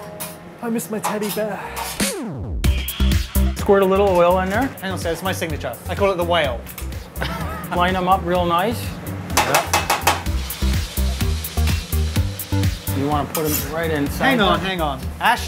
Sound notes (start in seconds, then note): 1.7 electronic music; 7.2 laughs; 9.4 pork chops sizzling; 9.5 metal clicking